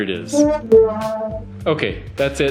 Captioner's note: sad Trombone Sound